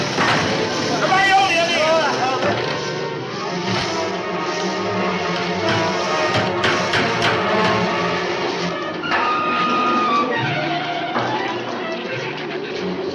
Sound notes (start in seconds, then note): 5.5 hammer thuds; 8.7 dramatic music continues